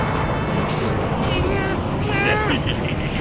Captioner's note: struggling; horny cackling